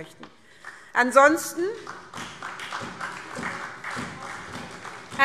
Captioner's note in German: Beifall SPD